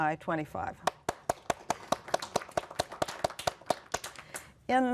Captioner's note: applause